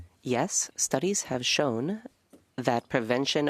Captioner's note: speaking French